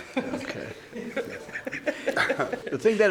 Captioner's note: woman laughs